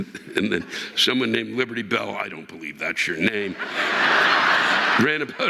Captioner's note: chuckling